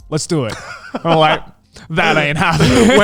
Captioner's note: laughs